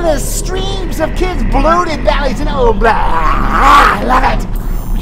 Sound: vomiting Sounds

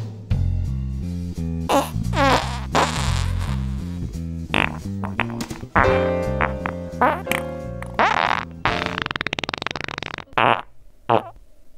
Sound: farts, farts, farts

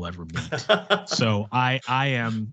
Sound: laughter

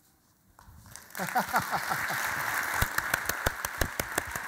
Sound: audience applause

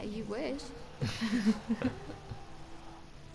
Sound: laughing

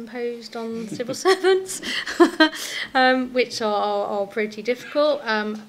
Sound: laughs

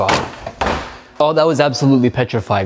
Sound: trash can lid slams

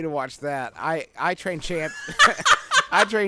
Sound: laughing

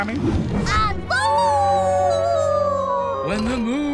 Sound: howling

